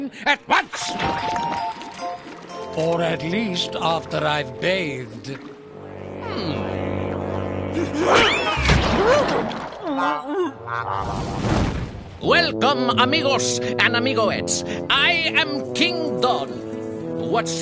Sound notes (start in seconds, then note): 8.9 grunting; 10.8 mumbling